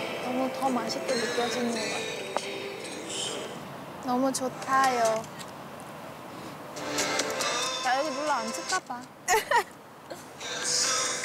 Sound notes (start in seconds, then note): 9.3 haha